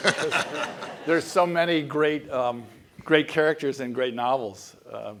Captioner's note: laugh